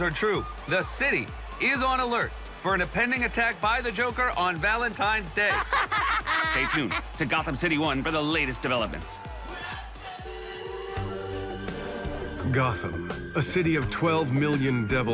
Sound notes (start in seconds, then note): 5.5 sinister laughter